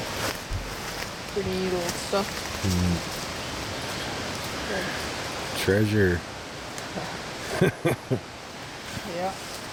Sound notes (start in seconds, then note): 7.4 laughter